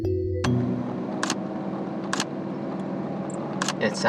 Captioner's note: soft chirping